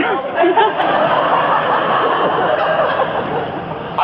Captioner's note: laughs